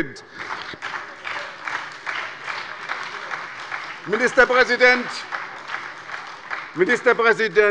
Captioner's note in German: Beifall bei der SPD und der LINKEN